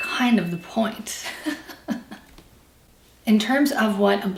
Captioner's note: laughs